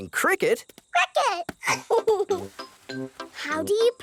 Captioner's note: giggles